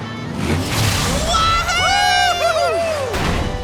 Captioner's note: cheering